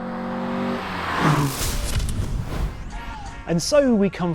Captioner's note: vehicle revs; transition whooshes